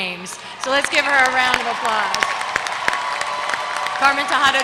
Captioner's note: applause